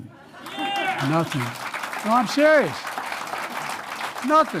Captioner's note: applause